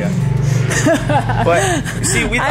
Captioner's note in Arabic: يضحك